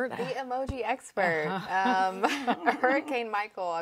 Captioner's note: laughs